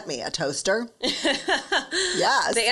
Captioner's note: laughs